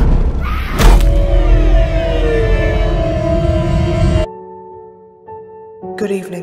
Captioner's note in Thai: เพลงสยองขวัญ; หญิงสาวกรีดร้อง